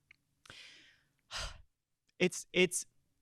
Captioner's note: exhaling